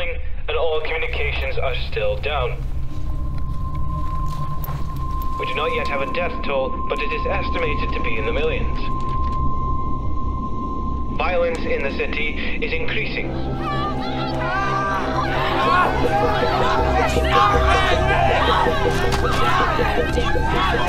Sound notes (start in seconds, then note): 3.2 high pitched noise; 13.6 riot noises and violent screams